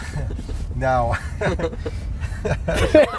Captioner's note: laughs; laughing